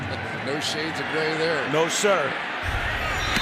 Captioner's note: cheering